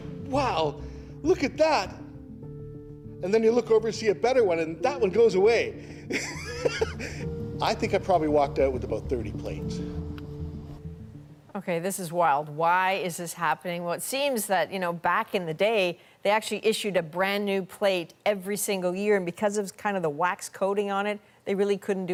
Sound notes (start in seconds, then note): 8.2 laughter